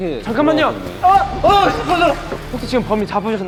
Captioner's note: surprised yelling